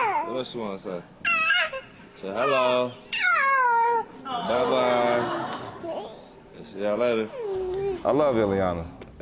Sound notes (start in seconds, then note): 2.2 cooing